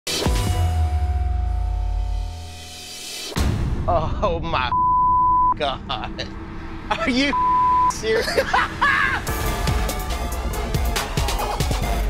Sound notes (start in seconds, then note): 0.1 dramatic music; 4.7 beep; 6.9 laughs; 7.3 beep; 8.0 laughs